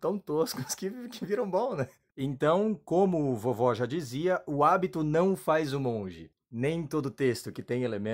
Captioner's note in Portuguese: risos